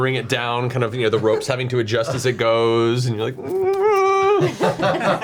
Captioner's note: groans; all laugh